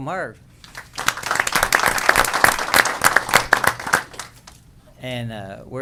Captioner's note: applause